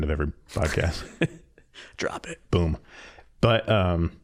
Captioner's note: laughing